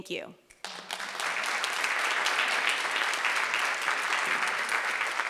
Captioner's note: audience applauding